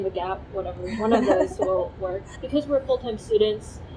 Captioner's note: laughing